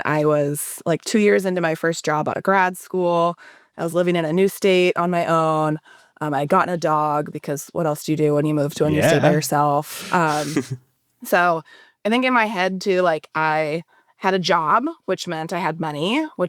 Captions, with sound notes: I was like two years into my first job outta grad school. I was living in a new state on my own. I gotten a dog, because what else do you do when you move to a new state by yourself? - Yeah. (laughs) - So, I think in my head too, like I had a job, which meant I had money,